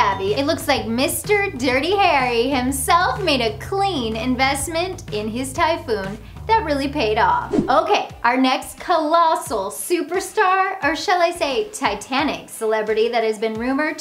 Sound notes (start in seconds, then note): 7.4 graphics whoosh